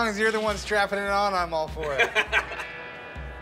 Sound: laughing

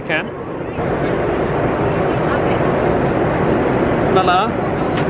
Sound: engine rumbling continues

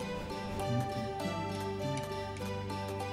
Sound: humming along

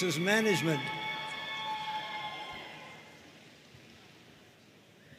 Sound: audience cheering

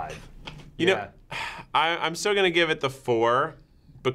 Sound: sighs

